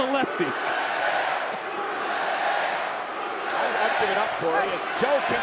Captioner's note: crowd chants "Rusev day"